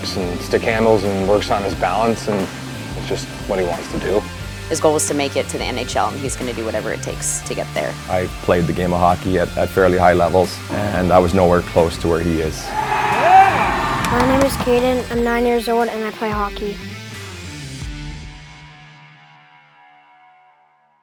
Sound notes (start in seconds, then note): 12.5 crowd cheering